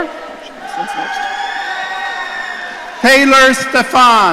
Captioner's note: audience cheering